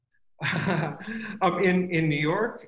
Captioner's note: laughing